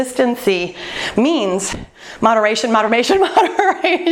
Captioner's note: laughs